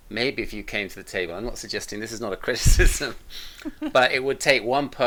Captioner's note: both laughing